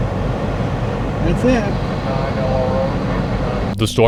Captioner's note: background radio chatter